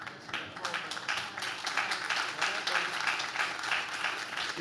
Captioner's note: audience claps